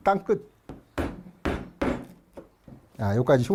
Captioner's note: hammering sound